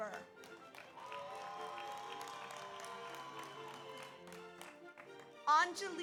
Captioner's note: audience applauds; audience cheers